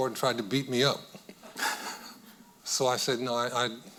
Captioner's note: chuckling